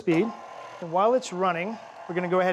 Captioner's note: mixer whirring